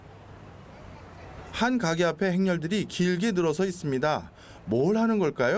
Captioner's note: crowd murmuring